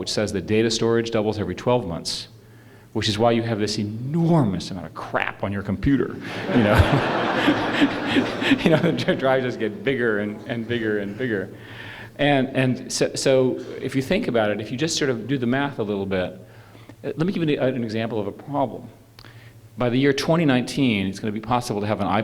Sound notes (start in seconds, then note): 6.2 laughter